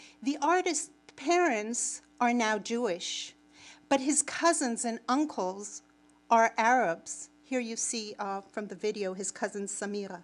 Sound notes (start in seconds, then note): none